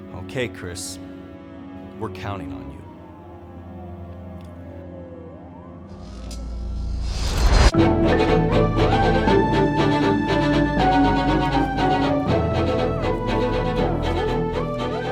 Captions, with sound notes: - Okay, Chris, we're counting on you. (emergency sirens) (electrical humming and shocking) (intense music)